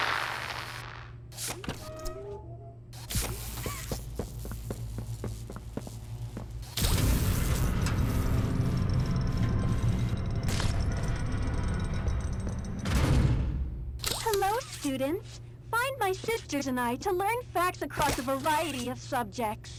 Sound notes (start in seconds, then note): 1.4 door creaks; 3.0 footsteps; 6.6 door creaks